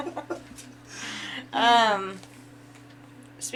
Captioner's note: laughing